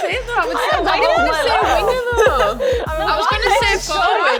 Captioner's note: group talking indistinctly